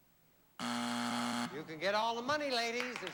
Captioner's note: buzzer